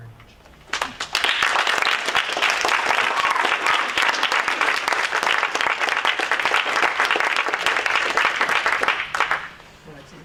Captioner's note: audience Clapping